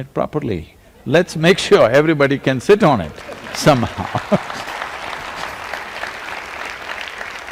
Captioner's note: laughter; laughs; applause